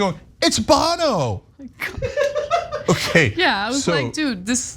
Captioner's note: laugh